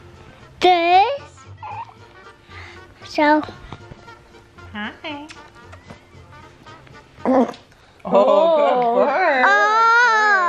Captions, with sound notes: this, so. - Hi. (burping) - Oh, good burp! - Oh, good burp! - Oh!